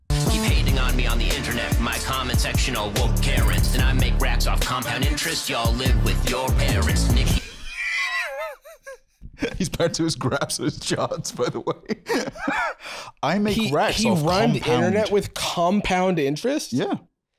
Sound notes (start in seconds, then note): 7.4 wheezing